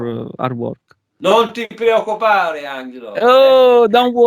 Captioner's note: talking in italian